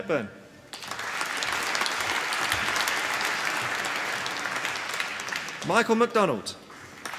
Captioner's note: applause